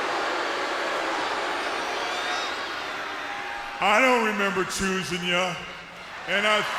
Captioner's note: crowd cheering